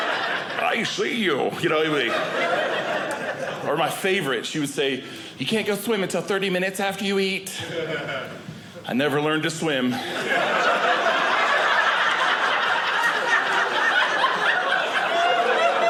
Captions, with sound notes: I see you. You're ugly. Or my favorite, she would say, "you can't go swimming until 30 "minutes after you eat." I never learned to swim. (audience laughing)